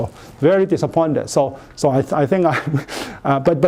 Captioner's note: chuckles